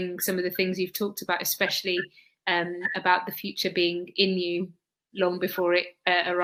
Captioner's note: erm